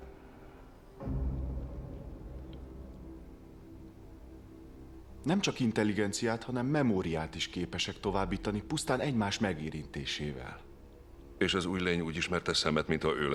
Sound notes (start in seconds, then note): none